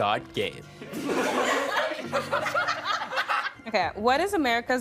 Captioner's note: all laughing